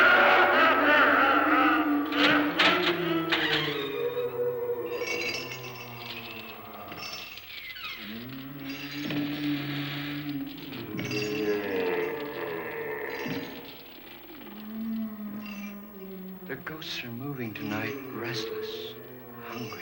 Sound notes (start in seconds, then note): 1.8 door creaking open; 8.0 footsteps